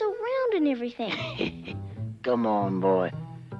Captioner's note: laughs